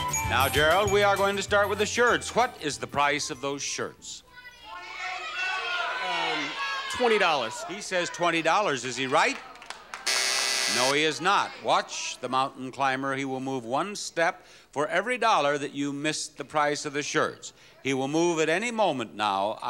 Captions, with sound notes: Now, Gerald, we are going to start with the shirts. What is the price of those shirts? (audience shouting) $20. He says $20, is he right? (bell buzzing) No, he is not. Watch the mountain climber. He will move one step for every dollar that you missed the price of the shirts, he will move at any moment now,